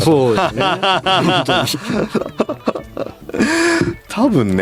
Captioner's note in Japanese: 笑い